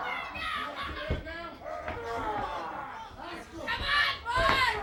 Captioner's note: crowd chatter